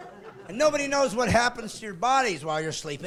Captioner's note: laughing